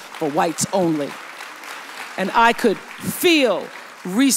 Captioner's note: audience applauds